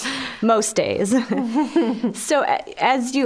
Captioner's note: all chuckling